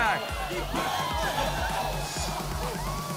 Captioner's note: crowd cheering wildly; electronic dance music continues